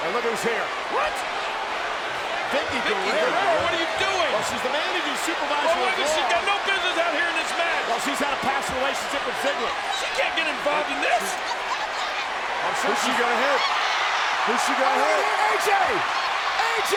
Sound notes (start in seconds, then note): 11.7 Vickie screaming